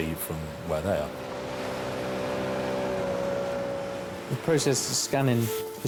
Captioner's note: lifeboat engine whirring